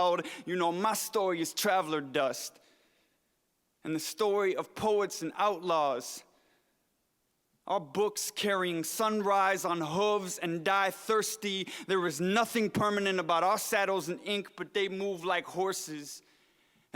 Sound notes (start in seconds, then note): none